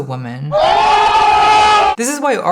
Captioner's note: all shouting